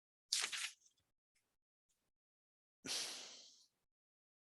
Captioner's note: page flipping